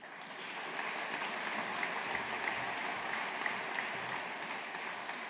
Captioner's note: audience applauding